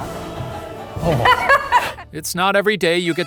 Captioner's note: laughing